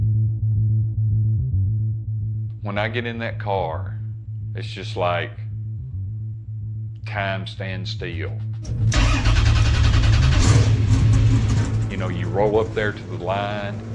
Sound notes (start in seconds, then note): 8.2 car engine revving